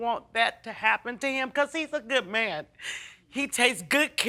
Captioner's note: sniffling